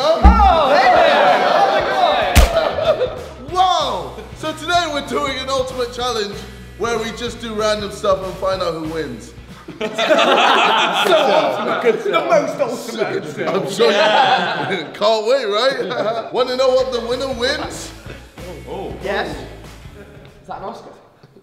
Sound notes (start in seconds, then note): 2.9 group laughing; 9.5 laughing